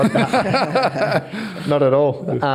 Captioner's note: all laugh